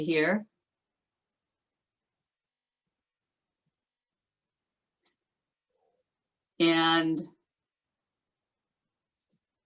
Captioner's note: silence while question is being answered